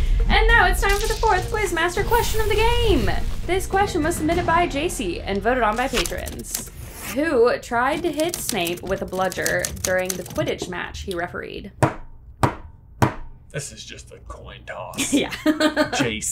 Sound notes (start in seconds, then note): 12.9 three loud table knocks; 15.0 laughs